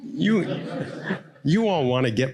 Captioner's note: audience laughing